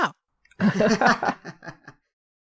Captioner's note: laughter